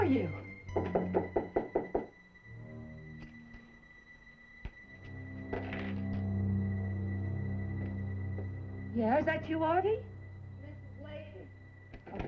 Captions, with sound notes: Artie, where are you? [KNOCKING AT DOOR] Yeah, is that you, Artie? -It's Mrs. Leyton.